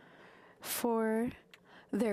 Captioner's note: speaking French